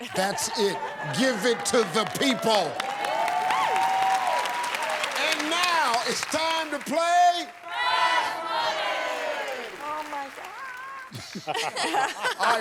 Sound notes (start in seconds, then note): 3.7 cheers and applause